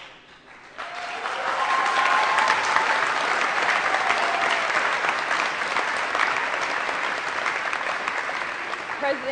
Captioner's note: applause